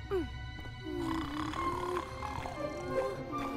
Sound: snoring continues

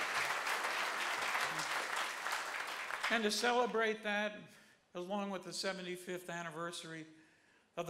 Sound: applause

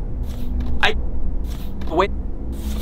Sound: posters fluttering

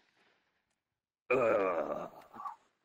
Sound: dying noise

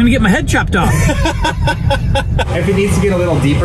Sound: laughing

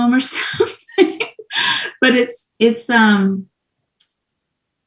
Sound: laughs

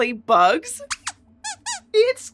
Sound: squeaks squeaks

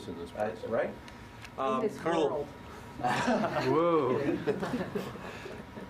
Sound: reporters chatter and chuckle

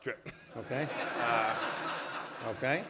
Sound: laughter

